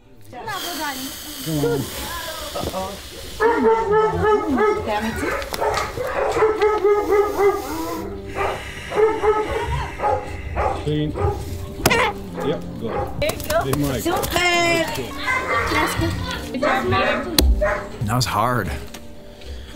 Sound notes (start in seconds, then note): 1.3 exhaling deeply; 3.4 dogs barking; 6.8 breathing deeply; 11.9 chicken squawks; 12.9 male Voice; 14.1 speaking Romanian